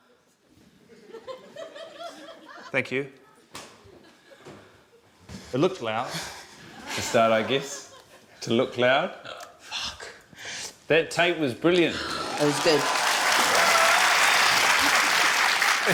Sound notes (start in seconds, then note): 0.8 laughter; 6.4 chuckles; 12.0 cheering, applause